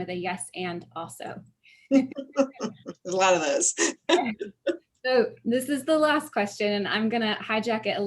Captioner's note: laughing